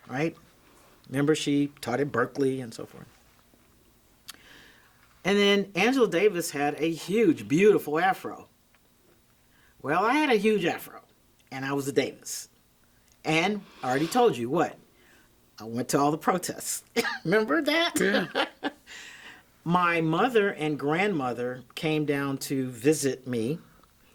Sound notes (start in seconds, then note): 17.8 chuckles